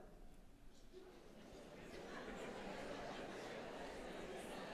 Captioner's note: audience chatter